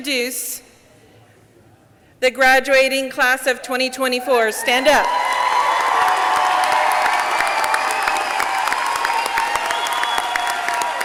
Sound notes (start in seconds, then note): 4.9 audience clapping; 6.9 audience cheering